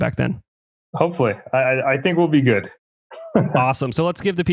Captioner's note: laughs